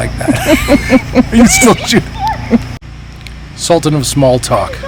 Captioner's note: laughing